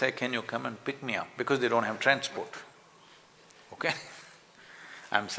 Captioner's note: laughs